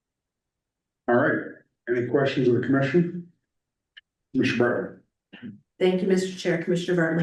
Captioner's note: clears throat